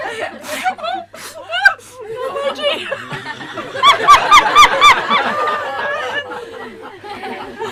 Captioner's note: questioner laughs uncontrollably